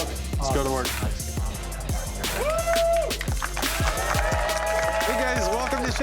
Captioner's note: customers clapping